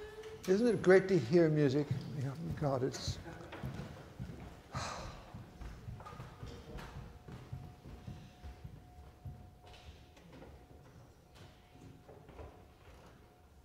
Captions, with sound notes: Isn't it great to hear music? God, it's... (sighs)